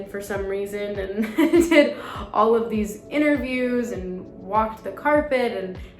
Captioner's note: chuckles